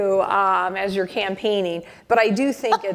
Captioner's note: laughter